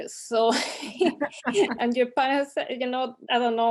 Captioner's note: both laughing